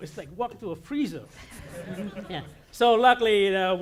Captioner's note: audience laughing